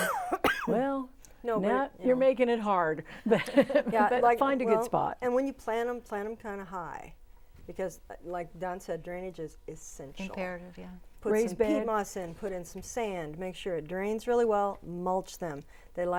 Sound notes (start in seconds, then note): 3.3 laughing